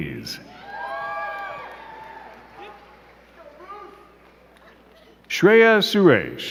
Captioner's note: crowd cheering and clapping